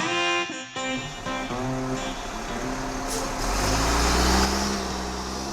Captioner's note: slow tempo country music; truck engine revving